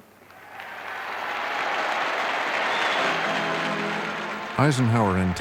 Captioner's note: applause